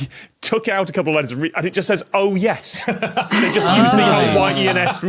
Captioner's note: guests laughing